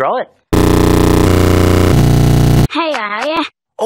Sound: distorted stuttering

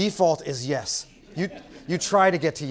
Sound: laugh

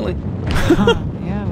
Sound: laughs

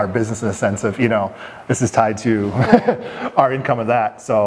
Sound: chuckling

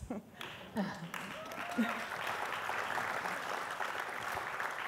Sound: audience applauds

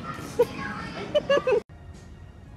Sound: giggle

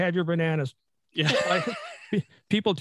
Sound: chuckles

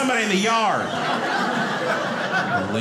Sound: audience laughing

